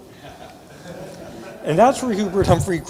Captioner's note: audience laughing